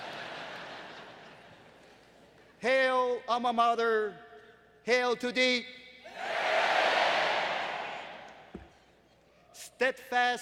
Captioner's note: laughter